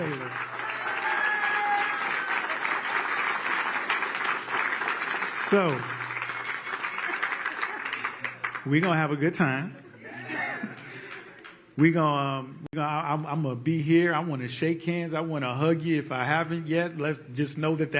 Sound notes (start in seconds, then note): 7.4 applause